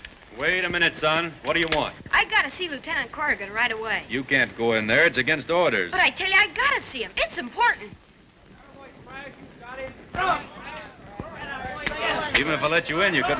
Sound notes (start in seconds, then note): 8.5 men chatter